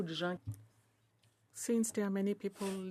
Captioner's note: speaking French